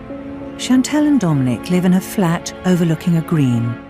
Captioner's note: voiceover